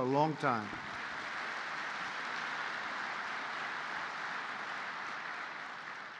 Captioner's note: applause